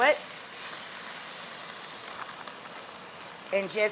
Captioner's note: ribs sizzle